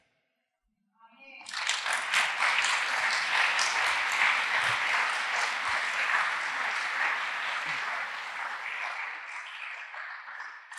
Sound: applause

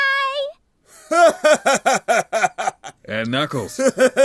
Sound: laughs

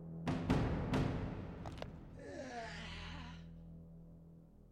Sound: crunch

